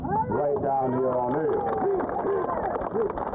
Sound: applause

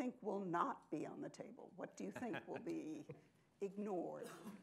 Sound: laughs

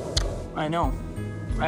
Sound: kissing

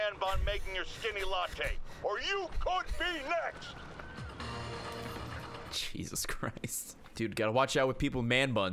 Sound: laughs

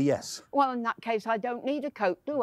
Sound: none

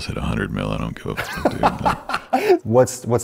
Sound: laughs

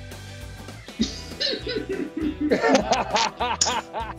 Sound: laughing

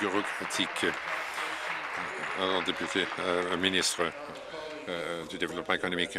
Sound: applause

